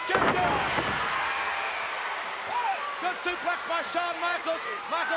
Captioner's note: applause